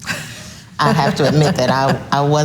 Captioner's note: laughs softly